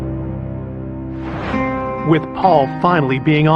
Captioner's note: air whoososhing